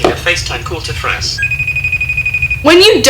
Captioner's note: ringing